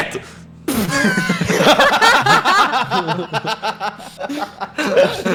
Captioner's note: laughter